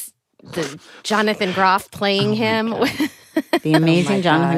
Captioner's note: laughs